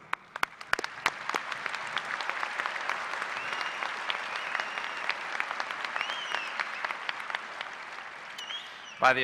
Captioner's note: applause